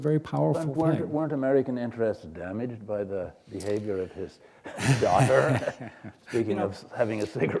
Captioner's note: chuckle